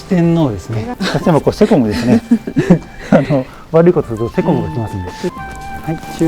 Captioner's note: laughs